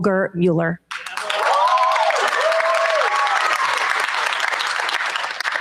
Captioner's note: cheers, applause